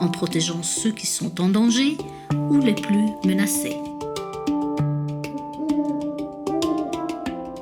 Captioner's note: owls hooting